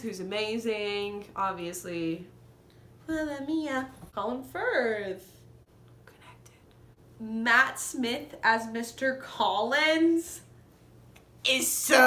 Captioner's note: whispered